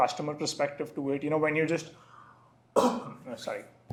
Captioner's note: coughs